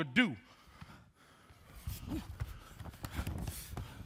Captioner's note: group panting